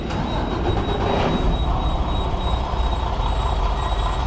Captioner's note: truck engine starts up